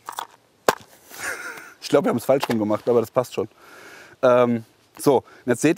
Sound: laughing

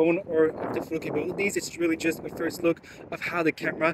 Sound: none

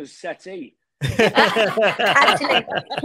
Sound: group laughing

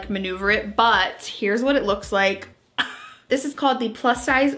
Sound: chuckles

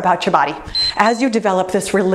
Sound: timer beeps

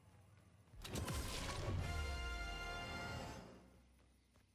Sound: gun reloading; level up sound effect

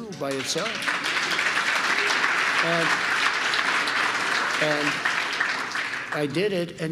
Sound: applause

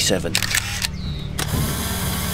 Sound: camera shutter

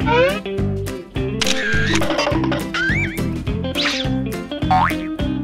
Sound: upbeat music begins; camera clicking; boing

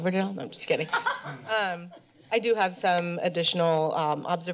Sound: laughter

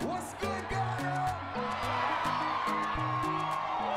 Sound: crowd cheering

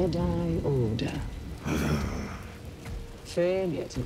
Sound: growl

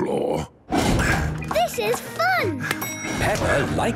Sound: panting

